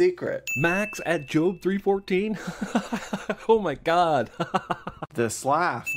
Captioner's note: laughs